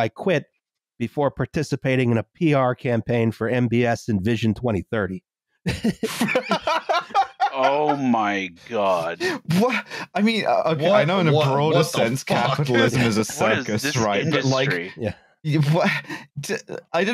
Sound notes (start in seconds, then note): 5.6 laughter